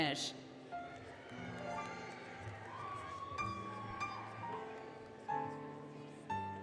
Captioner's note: applause, Cheering, Music